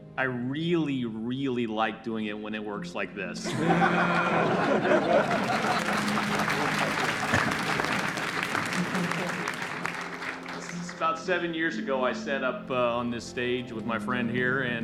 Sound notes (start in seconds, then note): 3.4 crowd laughs and cheers